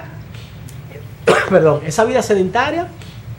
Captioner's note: cough